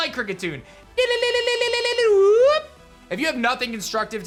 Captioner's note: Kricketune cry